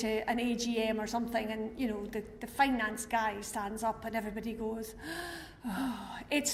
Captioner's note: sigh